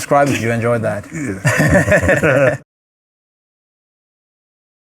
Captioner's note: both laughing